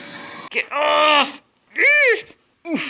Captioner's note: grunting as I pull